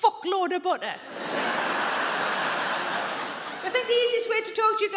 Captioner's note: audience laughs